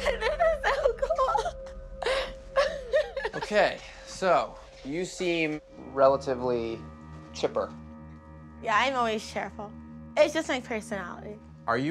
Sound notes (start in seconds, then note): 2.6 laughing